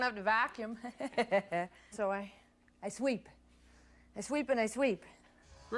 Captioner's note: laughs